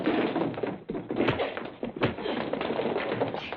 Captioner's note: scuffling